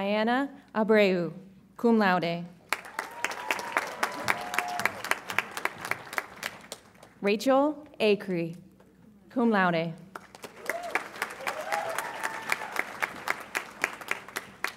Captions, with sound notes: Diana Abreyu, cum laude. (audience applauds and cheers) Rachel Akery, cum laude. (audience applauds and cheers)